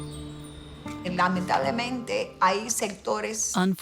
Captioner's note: speaking in Spanish